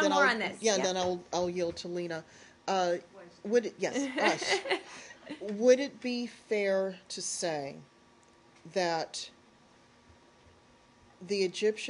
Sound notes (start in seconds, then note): 4.0 laughter